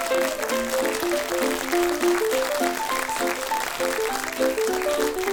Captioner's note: audience applauds